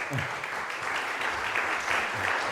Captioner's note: applause